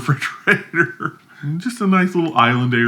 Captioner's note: laughs